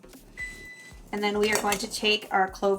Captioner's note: soft beeping